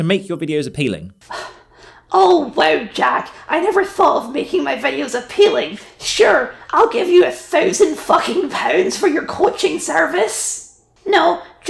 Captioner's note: sigh